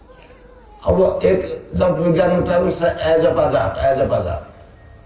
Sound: chanting

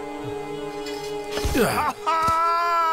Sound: sounds of stabbing

